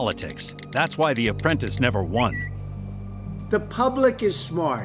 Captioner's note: Twitter chime